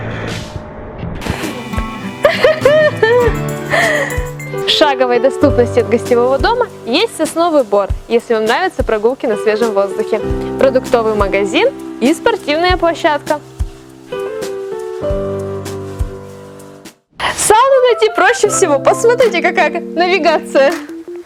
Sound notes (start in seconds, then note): 1.3 laughs